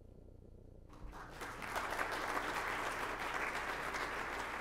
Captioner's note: applause